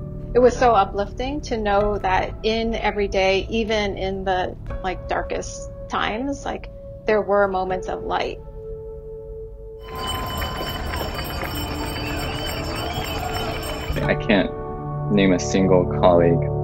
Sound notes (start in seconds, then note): 9.8 people cheering; 9.8 bells ringing